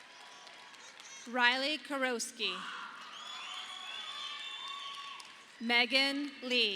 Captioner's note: audience applauding